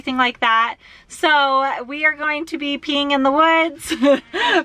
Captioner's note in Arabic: يضحك